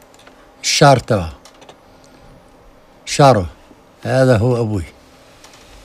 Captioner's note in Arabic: يتحدث بلغة أجنبية